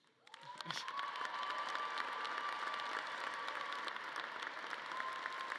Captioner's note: audience cheering and clapping